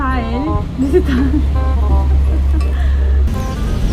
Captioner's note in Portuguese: risos